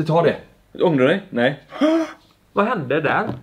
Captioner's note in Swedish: dramatisk inandning